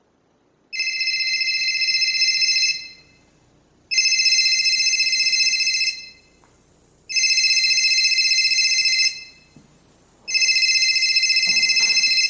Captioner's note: phone rings persistently